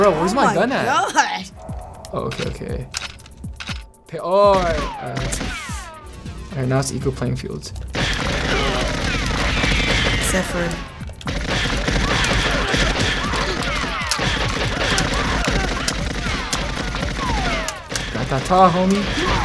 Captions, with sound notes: Oh my gosh. - Bro, where's my gun at? Oh, okay, okay. (guns cocking) All right. All right. All right, now it's equal playing fields. (rapid gunfire) - Is that fun? (rapid gunfire continues) - Not that tall, homey.